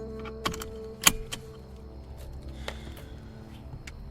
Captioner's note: seat-belt clattering